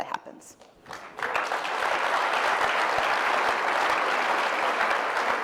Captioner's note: applause